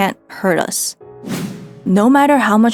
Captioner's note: transition + whoosh sound